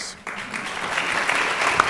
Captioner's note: applause